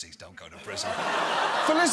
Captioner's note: audience laughs